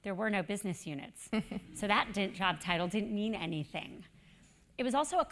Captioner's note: laugh